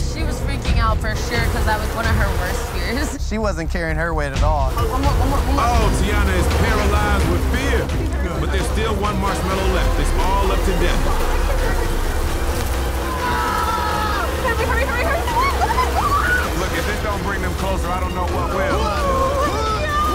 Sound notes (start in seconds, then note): 16.3 screams